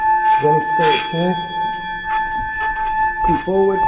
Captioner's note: bowl clanging